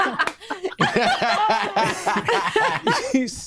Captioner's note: all laughing